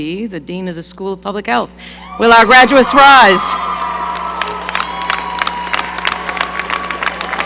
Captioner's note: applause